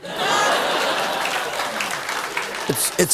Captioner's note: laughter